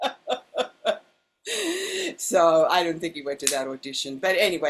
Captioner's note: laughs